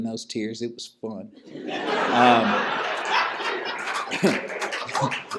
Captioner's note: laughter